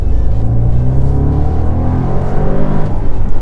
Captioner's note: 4 litre twin turbo V8 ROAR